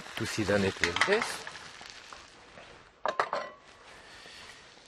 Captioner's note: pan sizzling